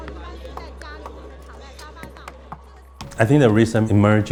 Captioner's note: crowd chatter